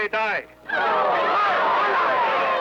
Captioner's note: captives shouting